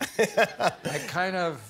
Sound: laughter

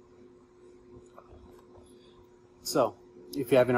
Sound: device whirling

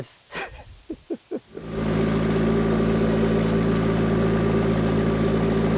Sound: laughs; skid steer engine humming

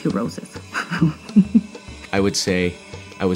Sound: giggles

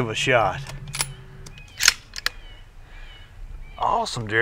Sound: gun reloading

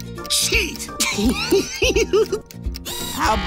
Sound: laughing

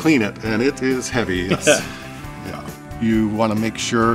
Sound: laughs

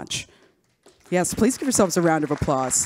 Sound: audience claps

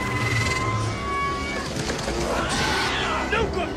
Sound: alien screaming

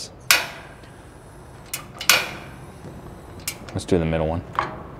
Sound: gas knob clinking

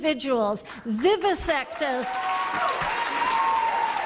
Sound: applause

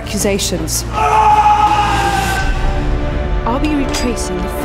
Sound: screams

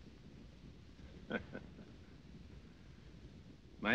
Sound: laughing

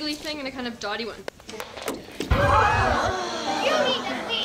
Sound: crowd gasping

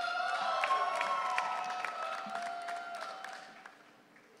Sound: audience cheering

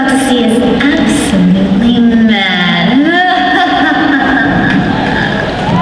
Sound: maniacal laugh

